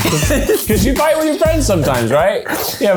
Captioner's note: laughs